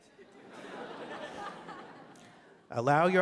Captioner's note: laughter